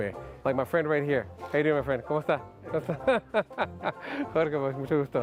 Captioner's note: laughs